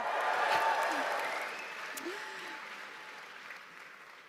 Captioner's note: cheering